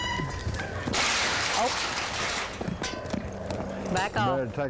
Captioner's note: gate rattling loudly